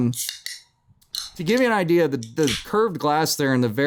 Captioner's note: tasty can SNAP! continues